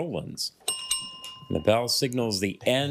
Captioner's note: bell dings twice